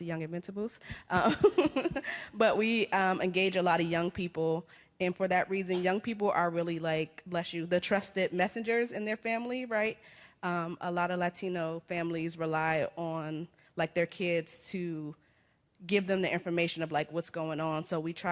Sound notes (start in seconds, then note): 1.3 laughs; 5.6 coughs